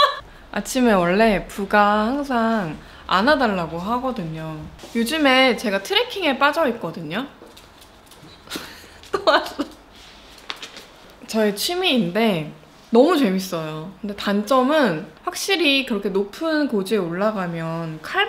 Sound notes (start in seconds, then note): 7.3 dog walking sound